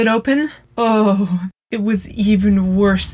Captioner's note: shudders